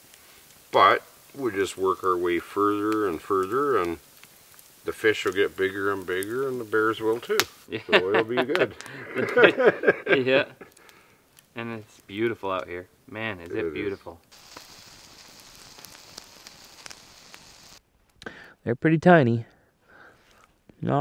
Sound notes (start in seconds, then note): 7.7 laughs; 15.3 fire crackling